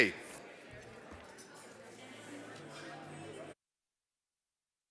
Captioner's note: background chatting